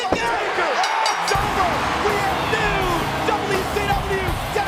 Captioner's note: bell dinging